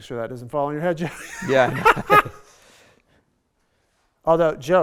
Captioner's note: laughing